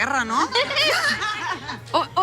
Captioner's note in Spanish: Risas